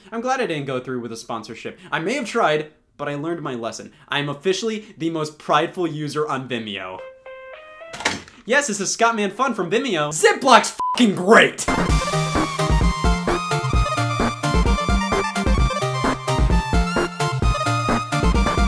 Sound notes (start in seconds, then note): 7.0 phone rings